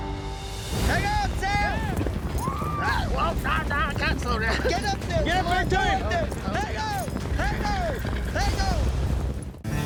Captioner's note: cowboys shouting